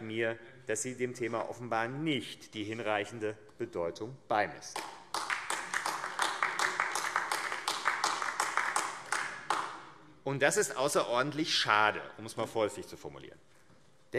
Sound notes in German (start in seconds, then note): 4.7 Beifall AfD